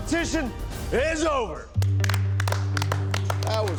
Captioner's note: applause